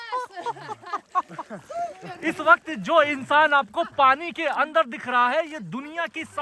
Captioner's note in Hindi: हंसी